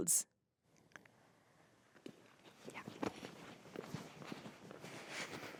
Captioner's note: footsteps tapping